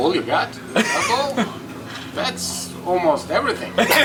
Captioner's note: giggles